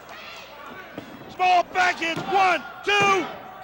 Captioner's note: crowd chatter